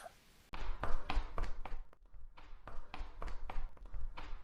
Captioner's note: very loud footsteps